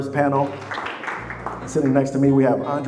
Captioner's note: audience applauding